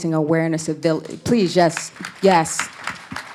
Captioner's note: applause